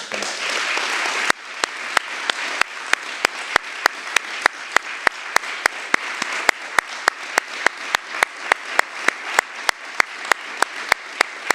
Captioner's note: applause